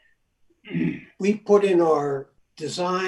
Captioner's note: clears throat